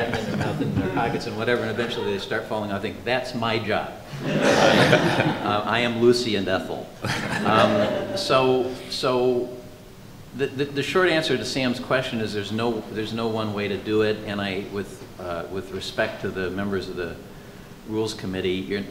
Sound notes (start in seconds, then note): 7.0 laughter